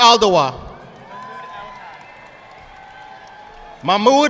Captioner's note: audience clapping